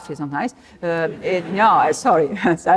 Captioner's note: laughter